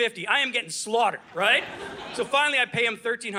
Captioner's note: audience laughing